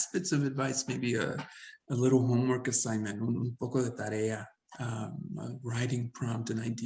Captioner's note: speaks Spanish